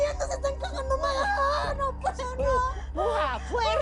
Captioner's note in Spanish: Habla entre gritos y sollozos